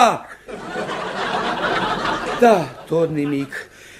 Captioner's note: audience laughs